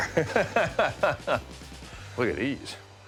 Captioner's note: laughs